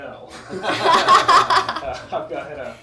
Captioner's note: all laugh